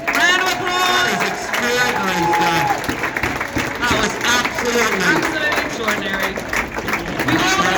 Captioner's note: applause